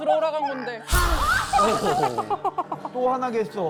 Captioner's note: fire-breathing sound effect